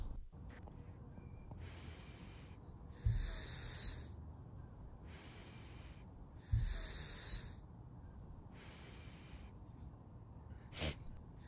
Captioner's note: nose whistling sounds